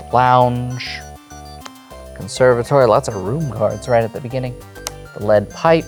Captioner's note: card slaps